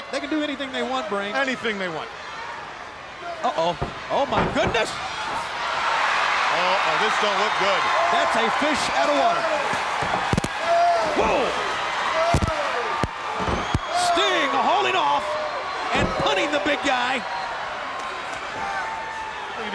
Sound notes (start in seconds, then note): 5.1 crowd screaming; 12.0 wrestler grunts; 15.1 crowd screaming